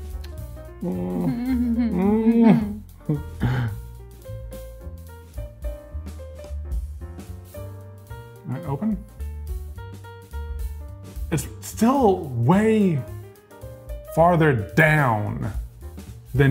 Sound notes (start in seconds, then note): 0.8 groans; 1.1 giggles